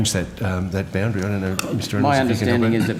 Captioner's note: mummers